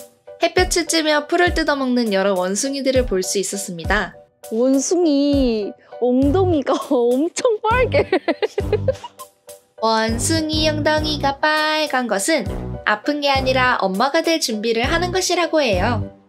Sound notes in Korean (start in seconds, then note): 7.9 웃음소리